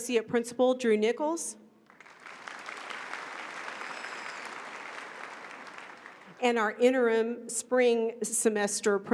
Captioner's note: applause